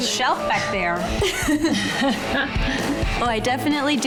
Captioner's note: laughing